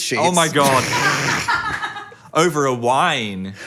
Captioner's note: people laughing